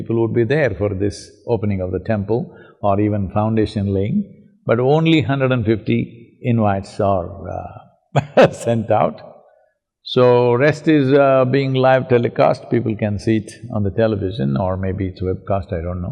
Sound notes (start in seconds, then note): 8.2 laughs